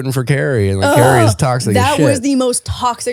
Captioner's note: groaning